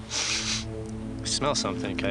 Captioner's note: Mario sniffing